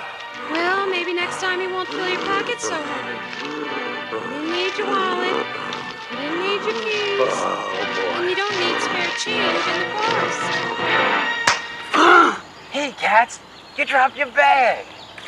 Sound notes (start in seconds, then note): 11.4 slap; 11.9 gasps